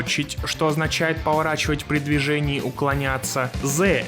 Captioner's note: in russian